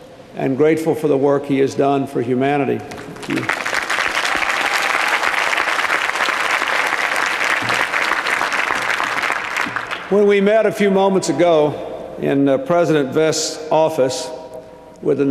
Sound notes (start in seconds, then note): 3.0 applause